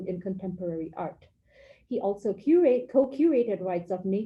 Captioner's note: none